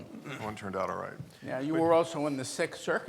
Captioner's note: murmurs